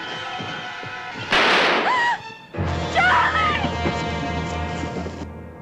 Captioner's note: gunshot - scream